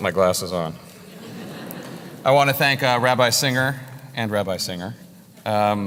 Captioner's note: laugh